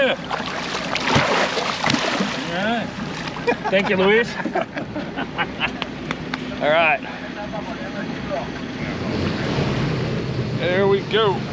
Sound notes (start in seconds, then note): 2.6 splashing; 4.3 laughing; 7.8 laughing